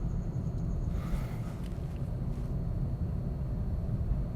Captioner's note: sighing